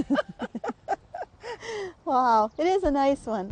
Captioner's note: both laughing